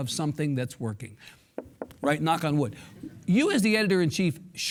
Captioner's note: hand knocks